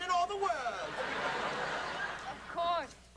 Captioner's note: laughter